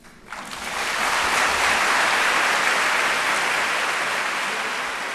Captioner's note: applause